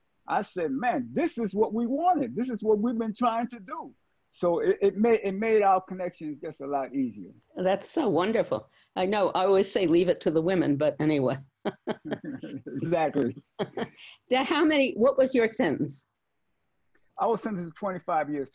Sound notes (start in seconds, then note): 11.6 laughs; 15.2 laughs